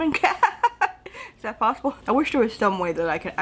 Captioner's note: laughs